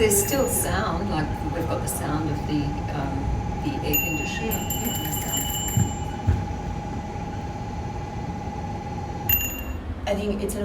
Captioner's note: sound of bell ringing, which causes dancer to respond with bouncing motion